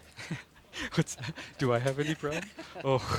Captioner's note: laughing